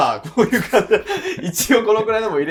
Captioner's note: laughing